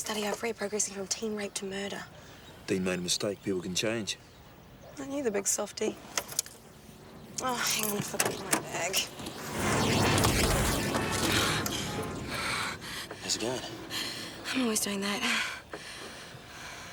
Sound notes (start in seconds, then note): 9.4 dramatic music; 9.5 horn honking; 12.2 breathing heavily; 16.2 laughs